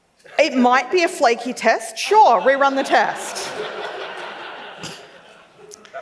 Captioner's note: laughs